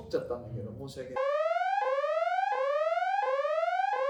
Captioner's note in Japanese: 警告音